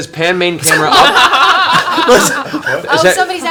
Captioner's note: all laugh